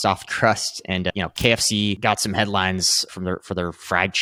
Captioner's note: screen clicking